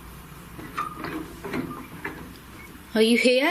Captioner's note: metallic squeaking